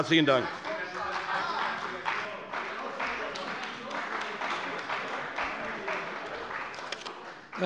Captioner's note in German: Beifall bei der CDU - Unruhe